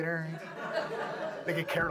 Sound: audience laughs

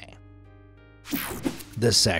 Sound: image whooshing

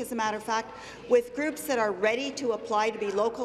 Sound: none

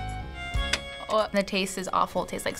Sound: retches

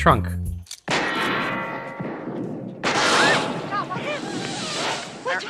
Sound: gunshot with metal ricochet noise

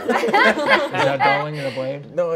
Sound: players laughing

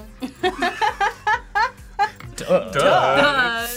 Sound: group laughs

